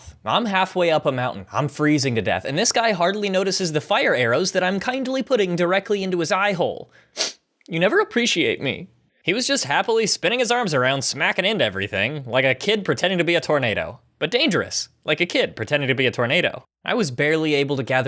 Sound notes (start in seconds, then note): 6.9 sniff